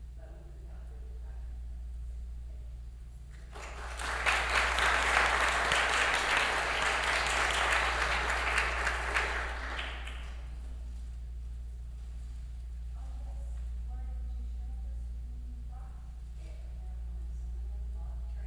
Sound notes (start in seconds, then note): 3.3 applause